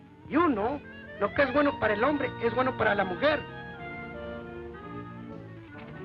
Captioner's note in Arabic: الرجل يتحدث الاسبانية